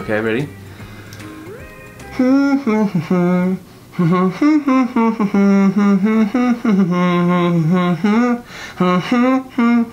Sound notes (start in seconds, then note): 1.9 humming